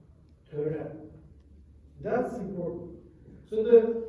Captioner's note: non-english